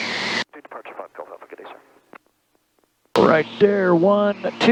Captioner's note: radio chattering